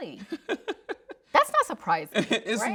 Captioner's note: laughing